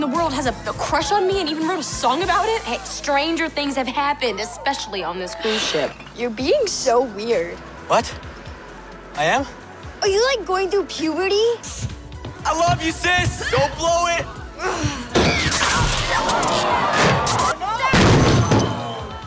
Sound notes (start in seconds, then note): 17.9 crashing